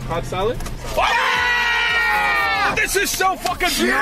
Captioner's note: cheering